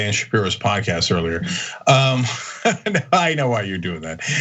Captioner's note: laugh